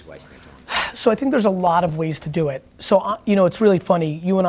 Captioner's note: sighing